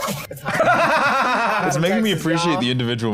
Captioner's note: laughs